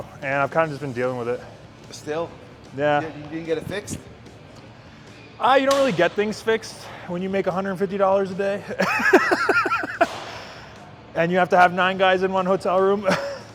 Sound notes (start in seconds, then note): 8.8 laughing